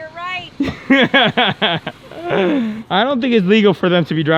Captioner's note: interviewer laughs